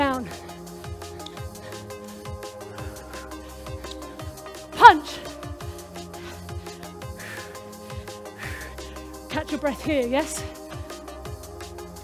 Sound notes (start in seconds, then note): 5.8 panting